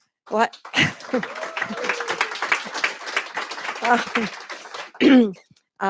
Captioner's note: applause